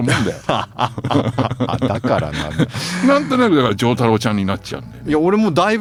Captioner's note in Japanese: 笑い